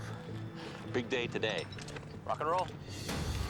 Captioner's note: sighs